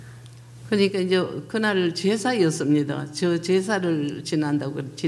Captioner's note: speaking foreign language